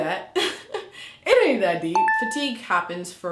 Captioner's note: beeping